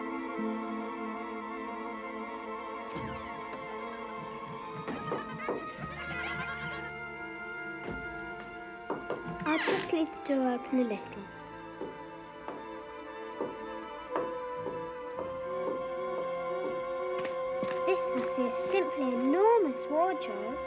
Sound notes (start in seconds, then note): 3.4 laughter and playful chatter